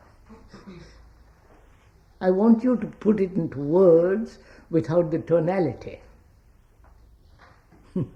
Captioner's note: laughs